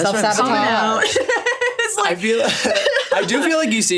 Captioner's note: laughs